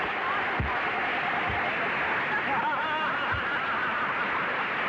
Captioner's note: applause and laughter